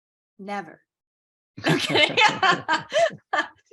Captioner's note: laughing